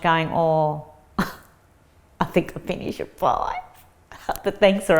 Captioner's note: chuckles